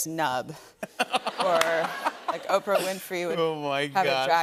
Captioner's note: laughter